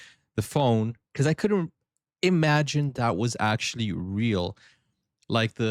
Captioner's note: none